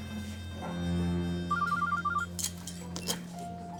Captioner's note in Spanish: Suena el celular